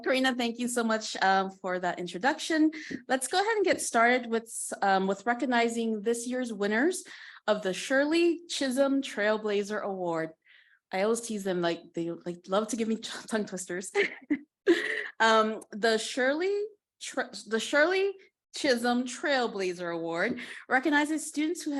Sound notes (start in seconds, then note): 14.0 chuckling